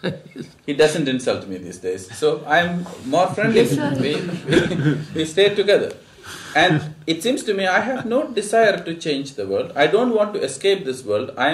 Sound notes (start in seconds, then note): 5.2 laughter; 6.6 laughs